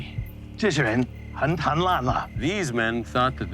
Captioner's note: translator speaking Chinese